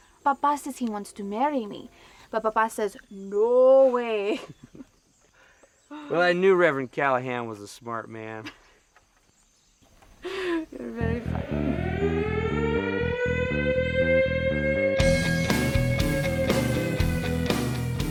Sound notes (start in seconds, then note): 8.5 laughing; 11.0 siren wailing; 14.9 country rock music